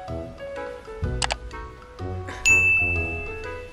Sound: mouse clicks; bell dings

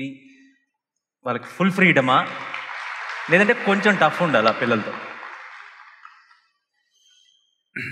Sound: applause

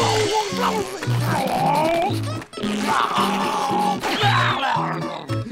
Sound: grunting

